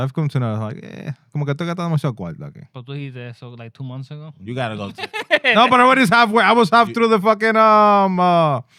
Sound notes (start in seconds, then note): 1.3 speaking In Foreign Language; 4.8 laughing